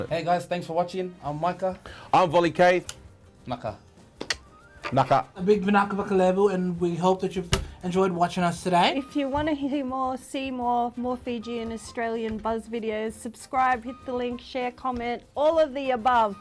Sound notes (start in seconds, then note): 3.7 fijian clap; 4.2 mouth click; 7.5 hands land on table